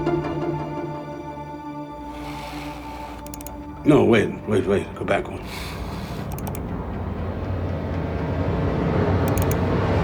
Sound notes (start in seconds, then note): 3.2 computer clicking; 7.0 ominous music